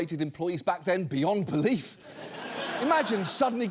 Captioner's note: audience laughs